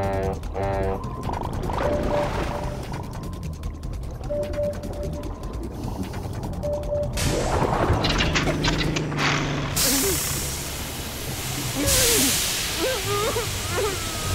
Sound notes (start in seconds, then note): 0.0 honking; 4.9 mechanical clattering; 8.4 engine sputters; 12.8 whimpering